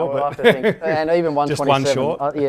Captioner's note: giggles